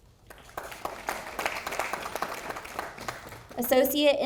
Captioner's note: audience applauding